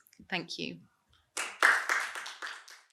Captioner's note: audience applauding